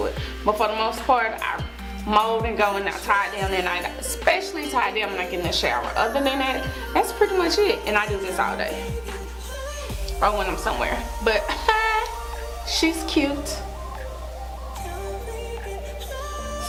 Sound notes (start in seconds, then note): 11.4 laughing